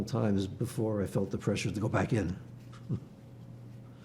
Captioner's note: laughing